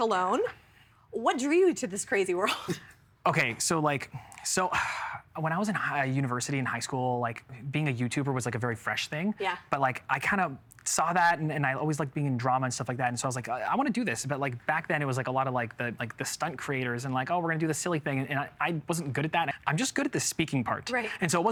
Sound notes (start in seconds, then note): 4.7 sighing